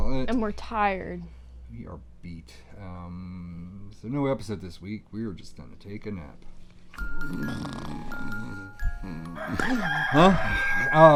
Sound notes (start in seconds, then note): 6.9 lullaby plays; 7.0 snores